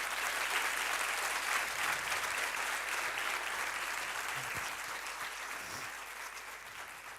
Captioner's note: applause